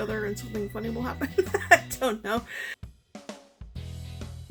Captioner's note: laughing